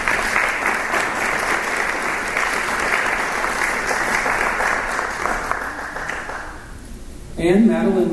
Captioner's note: applause